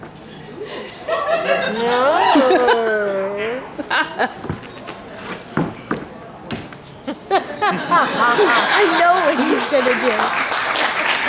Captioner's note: applause; laughter